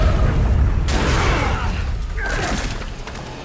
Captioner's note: grunts